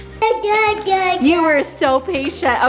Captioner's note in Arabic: فتاة صغيرة تثرثر